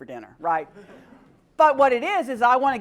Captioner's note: laugh